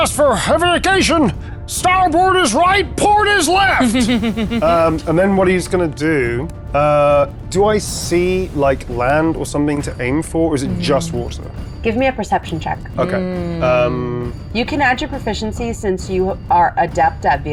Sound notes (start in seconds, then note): 3.7 laughing